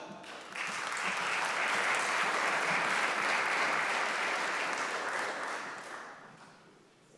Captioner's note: applause